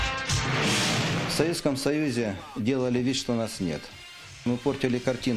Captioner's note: speaking Russian